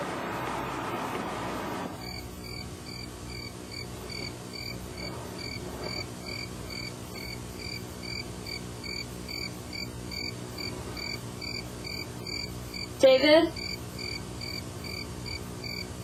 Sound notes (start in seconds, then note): 1.6 crickets chirping